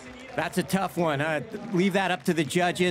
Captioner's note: crowd applauding